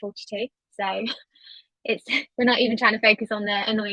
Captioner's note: chuckles